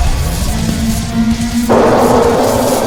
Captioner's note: scorpion beast wails; tentacle beast blares; explosion booms